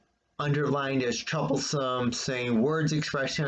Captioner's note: none